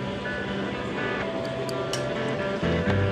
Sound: faint sounds of people chatting quietly in the background

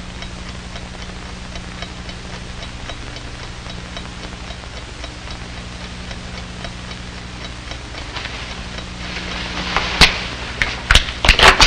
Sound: clock ticking

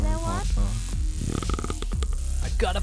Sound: teeth Grinding

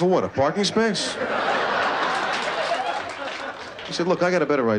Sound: laughter

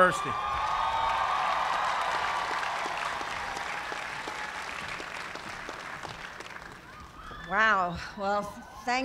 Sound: cheers and applause

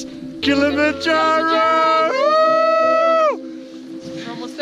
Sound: yelling

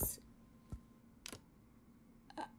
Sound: phone unlocks

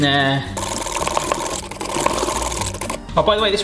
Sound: whisk whisking

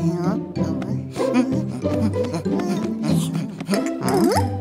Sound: sound of footsteps

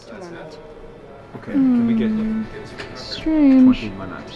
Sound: humming drowns out speaker

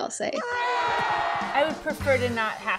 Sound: people exclaiming

